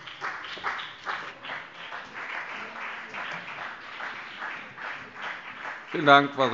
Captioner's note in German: Beifall BÜNDNIS 90/DIE GRÜNEN und CDU